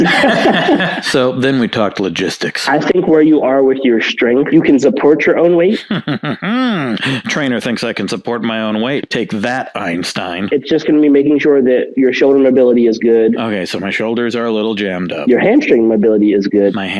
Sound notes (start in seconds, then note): 0.0 both laughing; 5.7 laughs smugly